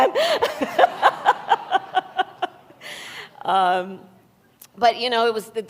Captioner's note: laughter